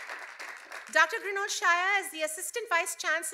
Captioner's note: cheers and applause